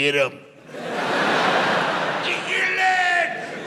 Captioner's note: audience laughs